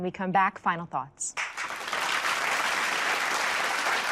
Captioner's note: applause